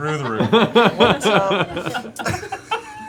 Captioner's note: laughter